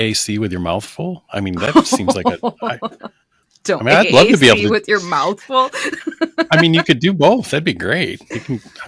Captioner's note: laughter